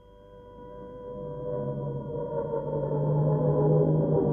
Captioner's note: sirens blaring